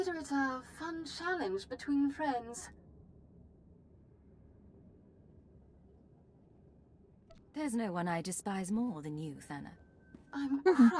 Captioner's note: laughs